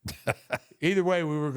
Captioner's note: The Undertaker laughs